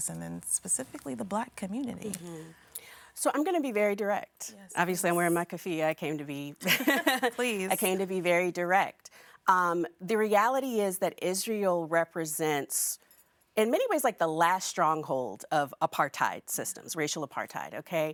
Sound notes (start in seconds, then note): 6.6 laughing